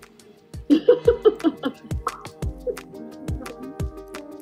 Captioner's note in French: Rires